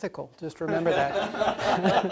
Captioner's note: general laughter